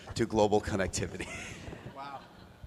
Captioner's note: laughter